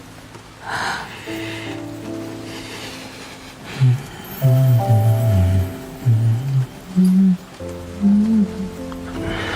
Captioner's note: Shen Jianqing gently strokes Li Yuze's hair, humming a folk song